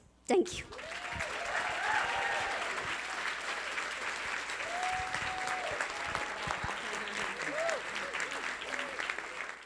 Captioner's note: audience clapping